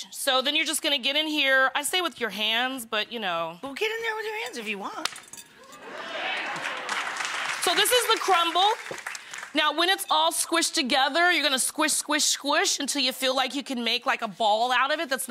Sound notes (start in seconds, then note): 5.9 audience applauding